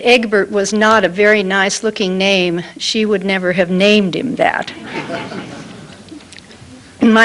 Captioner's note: laughter